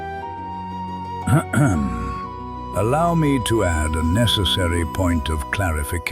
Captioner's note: clears throat